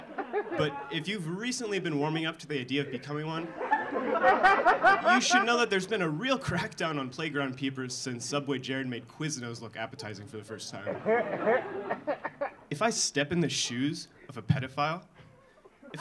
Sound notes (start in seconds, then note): 3.4 audience laughing; 10.8 audience laughing